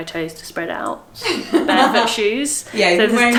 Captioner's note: laughs